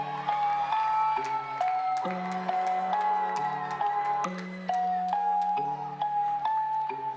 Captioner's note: crowd cheers